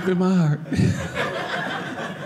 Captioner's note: audience laughing